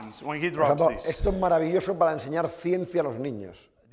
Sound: speaking spanish

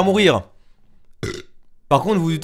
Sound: burp

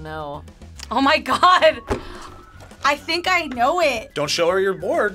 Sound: laughs

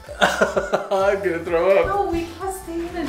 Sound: laughs

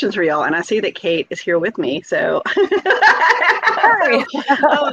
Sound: laughs

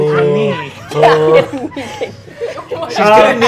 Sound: players laughing

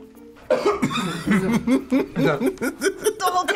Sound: gags; laughs

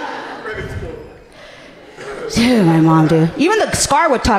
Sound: laughing

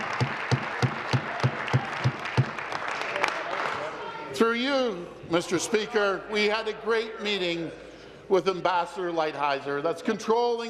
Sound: applause

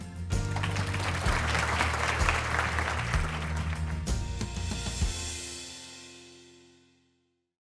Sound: applause and music

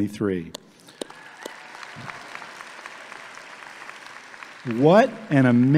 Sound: audience applauding

